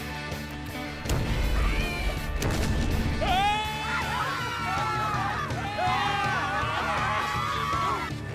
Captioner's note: screaming